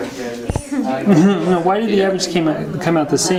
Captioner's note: chuckles